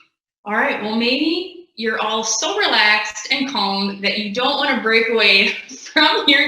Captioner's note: laughing